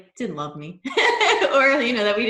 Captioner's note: laughs